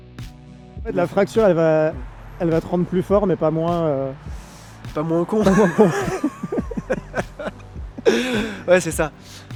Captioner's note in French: rires